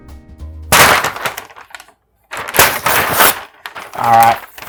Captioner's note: paper tearing